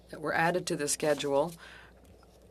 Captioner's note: speaking French